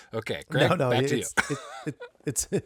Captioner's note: laughing